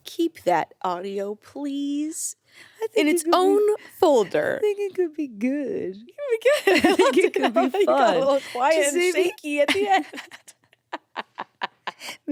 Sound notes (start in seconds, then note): 6.5 laughs